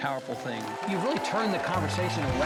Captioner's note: audience claps